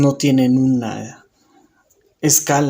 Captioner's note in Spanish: Silencio